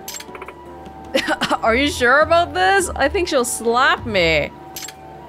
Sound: chuckles

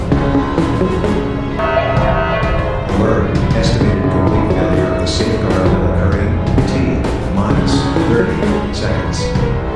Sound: announcement Chime

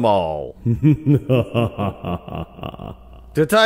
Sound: evil laugh

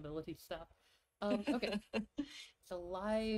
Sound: laughs

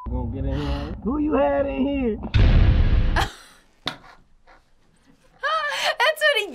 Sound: laughing

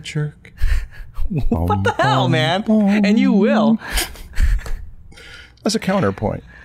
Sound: chuckle

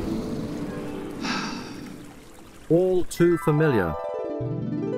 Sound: sigh

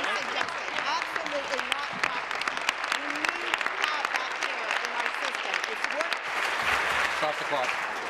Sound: applause

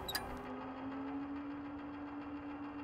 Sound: whirring

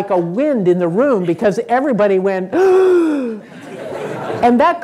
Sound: sighing

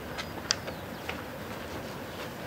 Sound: none

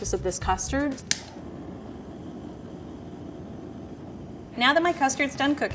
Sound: blowtorch whooshing

